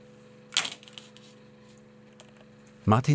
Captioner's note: whirring of a machine in the background